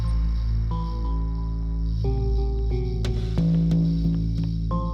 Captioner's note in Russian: шаги